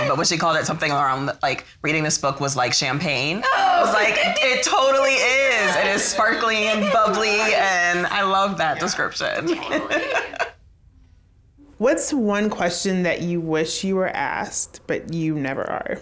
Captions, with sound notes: but when she called it something around like "reading this book was like champagne," it totally is, just sparkling and bubbly, and I loved that description (laughs). - What's one question that you wish you were asked but you never are.